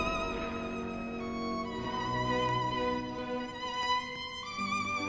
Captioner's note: dazed footsteps